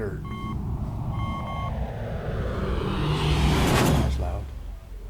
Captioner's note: rocket jet noise